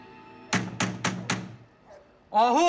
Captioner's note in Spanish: Toques en la puerta